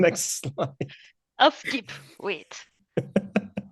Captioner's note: both laugh